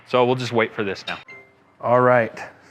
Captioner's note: beep sound